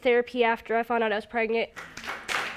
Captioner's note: audience applauding